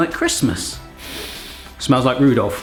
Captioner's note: inhaling deeply